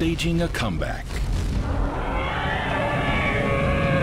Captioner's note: mammoths call